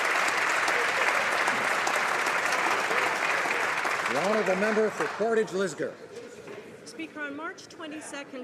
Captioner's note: applause